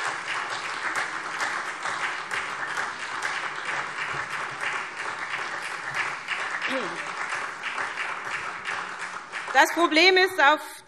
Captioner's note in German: Beifall SPD